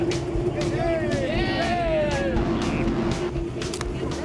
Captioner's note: cheering